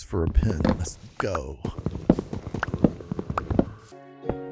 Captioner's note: groaning